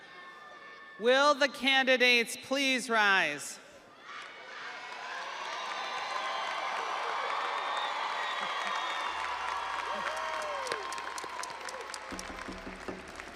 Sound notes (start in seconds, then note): 9.4 audience applauding; 9.4 audience cheering